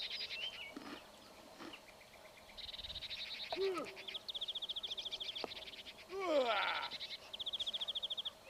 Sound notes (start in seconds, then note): 3.4 driver yelling